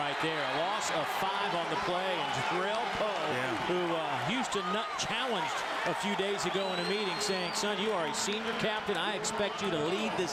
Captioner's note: crowd noise